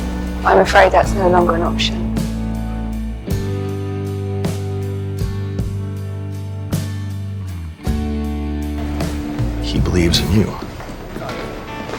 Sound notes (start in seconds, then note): 9.9 voiceover